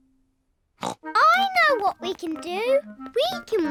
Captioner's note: snorts